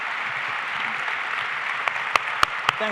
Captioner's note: applause